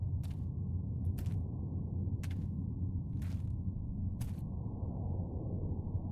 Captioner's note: footsteps crunching continues